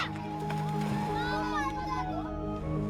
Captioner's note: children chattering indistinctly